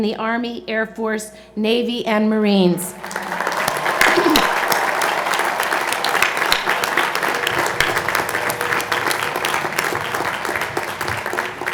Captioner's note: cheers and Applause